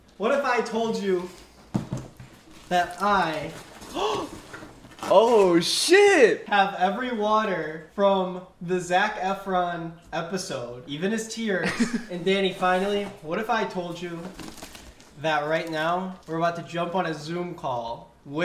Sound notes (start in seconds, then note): 3.9 gasps loudly